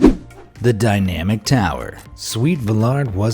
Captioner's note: graphic whooshing